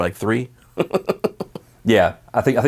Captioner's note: laughing